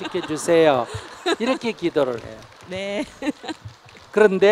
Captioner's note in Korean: 질문자, 청중 웃음